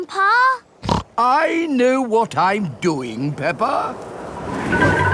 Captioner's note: snorts